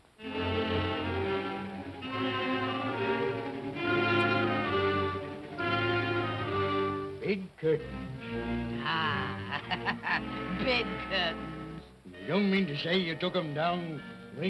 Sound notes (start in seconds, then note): 0.3 tense ominous music; 8.9 laughs